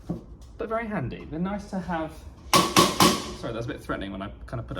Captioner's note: hammer pounding